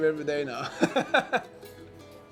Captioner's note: chuckles